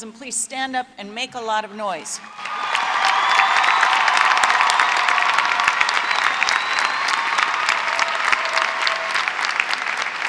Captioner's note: applause